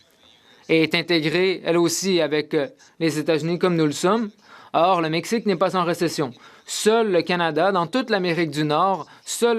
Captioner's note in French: voix de l'interprète